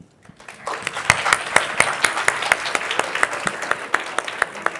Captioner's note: crowd applauds